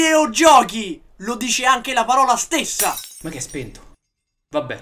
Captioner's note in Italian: vetri che si infrangono